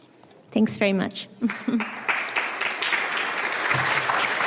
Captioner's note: applause